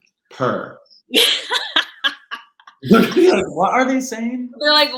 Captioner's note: laughing